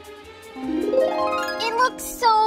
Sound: magic wand sound

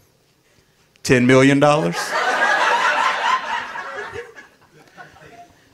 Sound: audience laughing

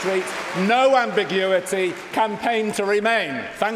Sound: cheering & Applause

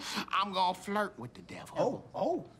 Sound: none

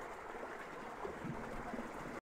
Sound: water noises

